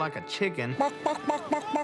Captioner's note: clucking